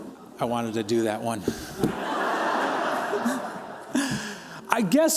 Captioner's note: laughter